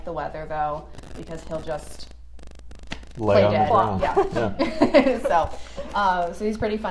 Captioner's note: laughter